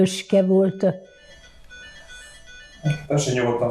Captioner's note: phone ringing